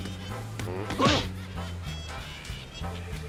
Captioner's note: grunts